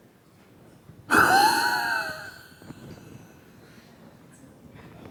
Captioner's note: air blowing forcefully